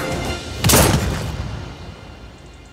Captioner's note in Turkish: Silah sesi